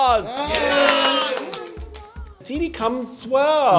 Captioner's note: clapping